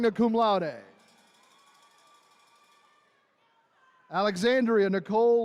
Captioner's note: attendees cheering